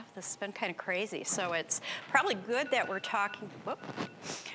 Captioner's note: phone ringing